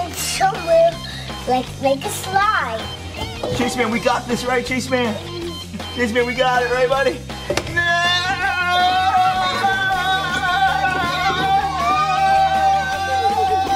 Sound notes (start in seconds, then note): 2.7 upbeat music; 7.7 dad and kids yelling